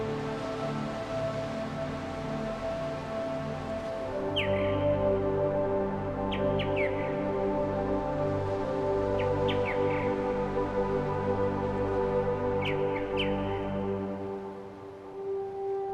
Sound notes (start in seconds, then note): 4.3 birds singing